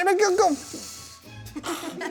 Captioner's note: blowing In Air; kids Laughing